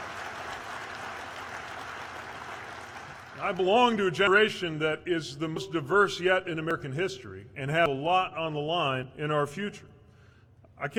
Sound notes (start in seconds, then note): 0.0 applause